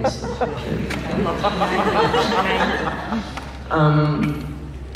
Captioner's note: laughs